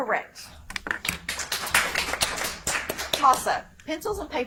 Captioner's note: audience applauds